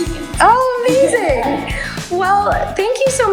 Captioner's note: laughs